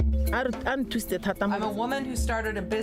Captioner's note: percussive music; speaks in foreign language